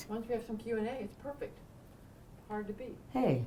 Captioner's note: voiceover